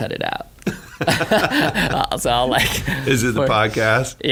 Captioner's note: laughing